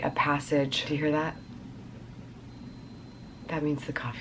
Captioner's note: soft beeps